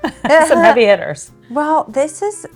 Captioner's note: laughs